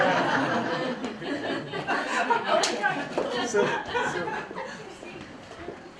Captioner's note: laughter